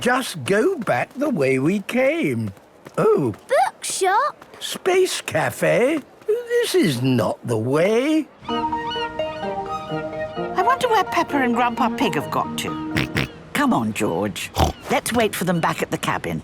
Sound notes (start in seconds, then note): 8.3 gulls squawking; 14.5 George snorts; 14.5 snorts